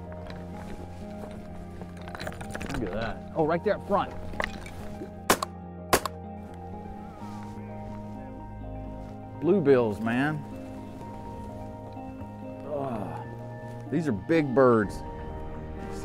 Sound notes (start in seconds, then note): 5.9 gunshots